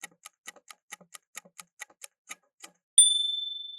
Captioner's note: timer ticking